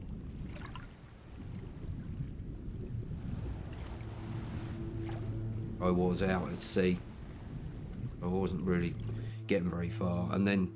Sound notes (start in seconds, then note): 0.6 water rumbles; 3.6 dark music